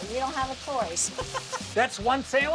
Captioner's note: laughs